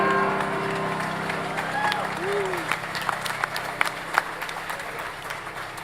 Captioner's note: audience applauds